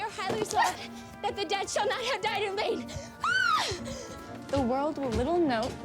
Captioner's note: yells